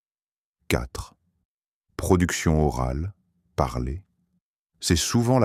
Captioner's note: speaking